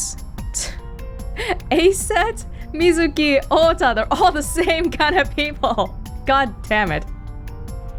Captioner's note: chuckles